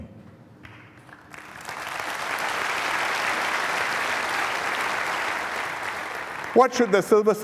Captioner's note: applause